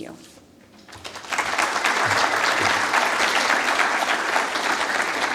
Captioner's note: applause